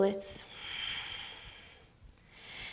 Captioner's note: exhaling